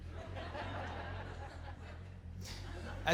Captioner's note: audience laughter